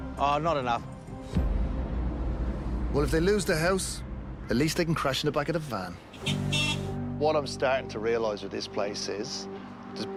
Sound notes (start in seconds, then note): 6.1 horn honks